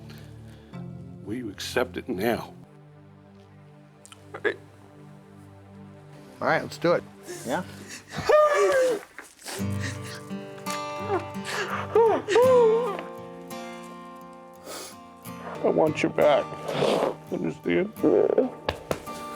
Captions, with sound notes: WILL YOU ACCEPT IT NOW? AT THE TOP OF YOUR GAME FOR ALL THAT. ALL RIGHT. ALL RIGHT. LET'S DO IT. ALL RIGHT. LET'S DO IT. ALL RIGHT. LET'S DO IT. [WAILS] [ALL CRYING] [ALL CRYING] YEAH.